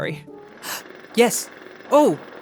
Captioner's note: gasps